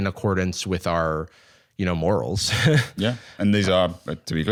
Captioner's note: laughs